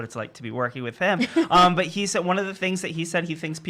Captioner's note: laughing